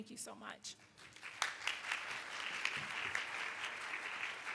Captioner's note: applauding